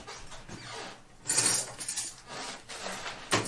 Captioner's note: cutlery clatters